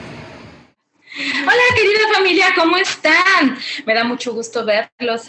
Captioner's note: woman speaking Spanish